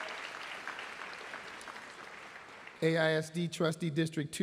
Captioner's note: applause